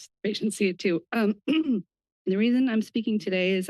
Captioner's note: clears throat